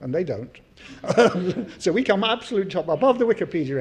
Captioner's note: laugh